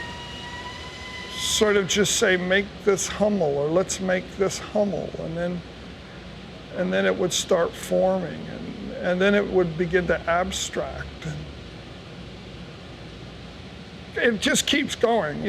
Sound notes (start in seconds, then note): none